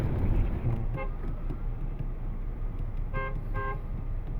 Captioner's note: horns honk